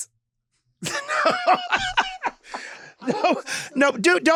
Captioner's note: Lady Bunny laughs